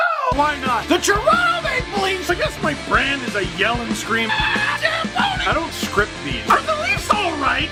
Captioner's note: rock music plays throughout intro; screams